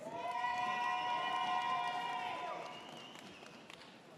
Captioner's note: audience cheers